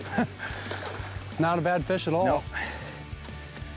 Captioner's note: water splashes